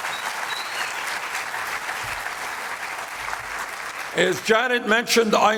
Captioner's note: applause